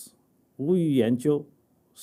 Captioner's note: speaking chinese